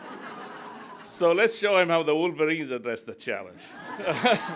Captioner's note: laughter